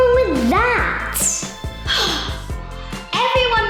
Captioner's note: sighing